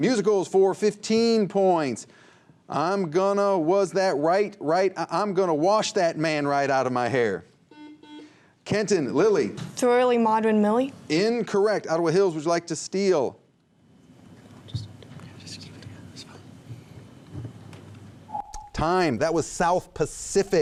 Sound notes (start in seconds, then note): 7.7 buzzer; 15.2 whispers